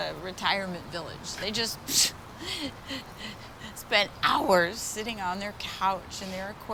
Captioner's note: chuckles